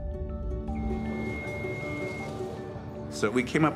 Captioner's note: beeping sound